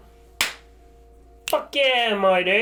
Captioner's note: clap